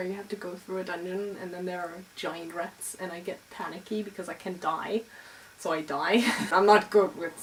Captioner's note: laugh